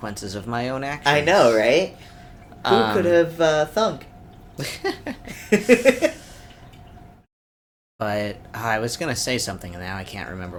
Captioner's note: laughter